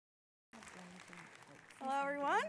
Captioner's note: audience clapping